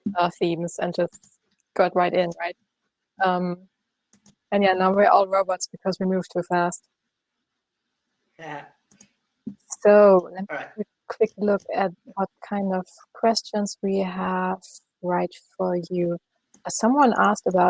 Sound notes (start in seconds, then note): 9.5 laughs